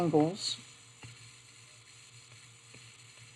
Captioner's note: silence